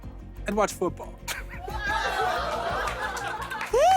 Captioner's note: laughter